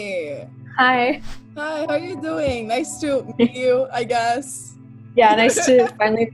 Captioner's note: laughter